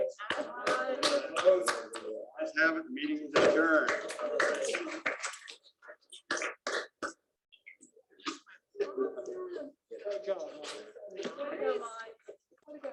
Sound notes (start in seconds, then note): 3.8 applause